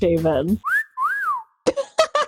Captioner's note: announcer whistles; laughs